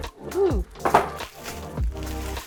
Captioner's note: clacking; scratching; thudding